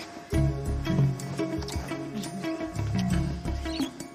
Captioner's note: both kiss